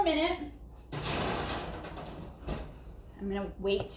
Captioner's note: metal clanging